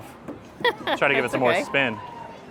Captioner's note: laughs